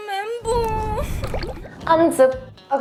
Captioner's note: rocks falling; speaks in Korean